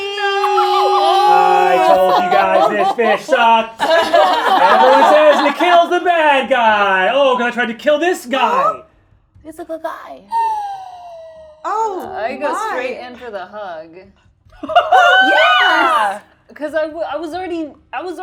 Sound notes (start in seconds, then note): 3.6 laughing; 14.7 laughing